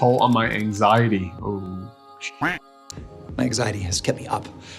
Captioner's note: duck quacking